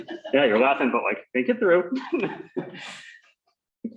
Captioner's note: laughter; laughs